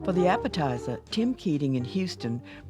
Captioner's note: voiceover